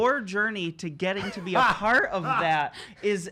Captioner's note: laughing